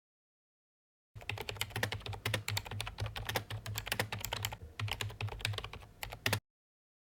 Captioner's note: typing